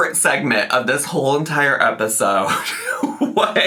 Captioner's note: laughs